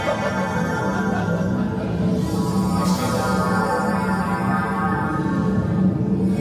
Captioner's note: crowd laughs